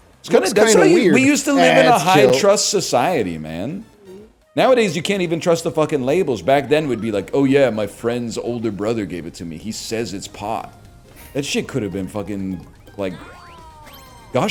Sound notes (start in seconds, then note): 7.5 douchebag voice